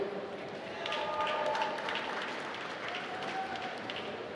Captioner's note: applause